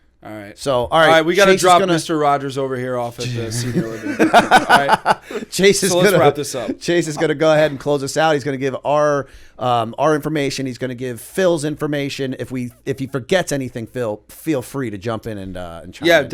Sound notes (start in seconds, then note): 3.3 laughter